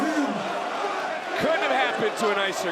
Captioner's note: crowd roars